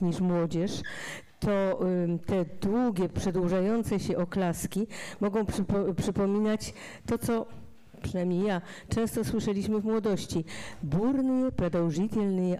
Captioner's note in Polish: fraza po rosyjsku